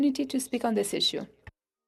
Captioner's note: speaking French